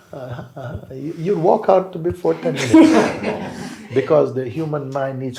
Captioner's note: laughter